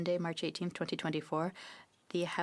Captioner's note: speaking French